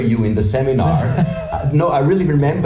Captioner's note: laughs